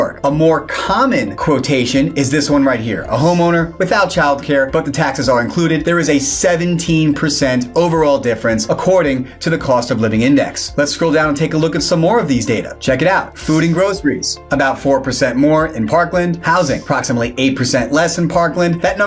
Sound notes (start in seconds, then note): 3.1 graphics swish; 13.3 graphics swish; 16.4 graphics swish